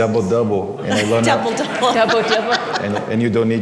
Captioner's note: laughter